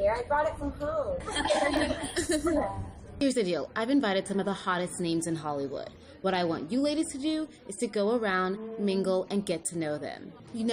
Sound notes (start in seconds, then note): 1.2 laughter